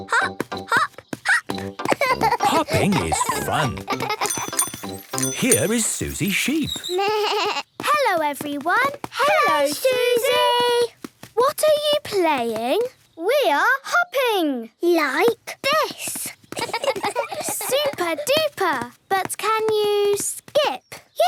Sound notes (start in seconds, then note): 4.2 bike bell; 6.9 bleating; 16.6 laughs